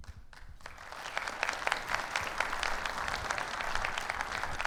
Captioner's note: audience applauds